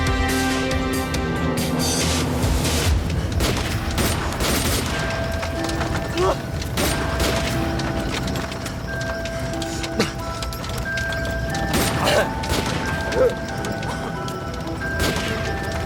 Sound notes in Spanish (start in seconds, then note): 3.3 Disparos; 6.2 Grito; 6.8 Disparos